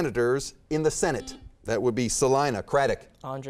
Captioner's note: beeping